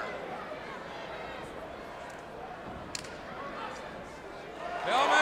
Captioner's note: crowd chatter